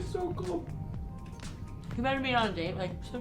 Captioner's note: lisping